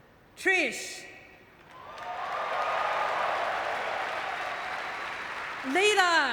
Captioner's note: audience cheering